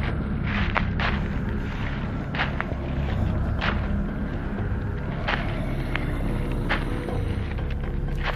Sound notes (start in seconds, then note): 2.6 heavy footsteps